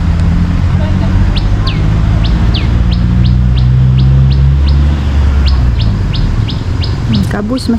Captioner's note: birds sound